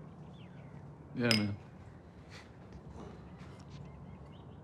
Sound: glasses clink

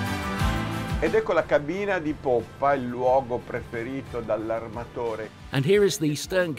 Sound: speaking in foreign language

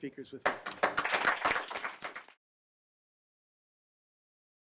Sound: audience clapping

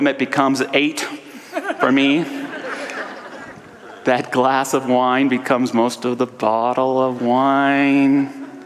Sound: audience laughter

